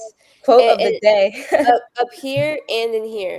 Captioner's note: chuckles